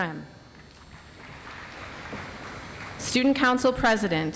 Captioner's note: audience applauds